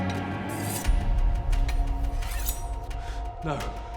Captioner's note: suspenseful music; metal scraping